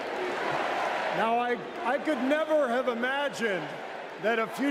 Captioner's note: chanting "usa"